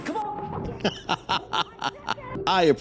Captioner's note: laughing